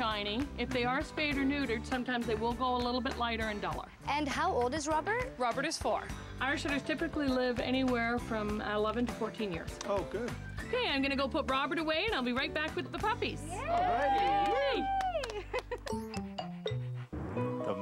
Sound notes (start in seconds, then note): 13.5 mixed cheers